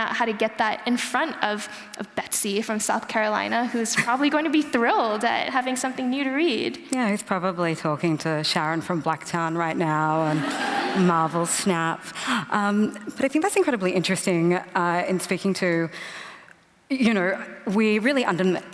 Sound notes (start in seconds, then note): 10.2 laughter